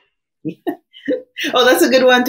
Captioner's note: laughs